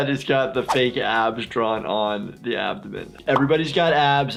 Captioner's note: none